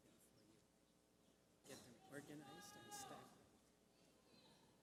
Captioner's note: indistinct chatter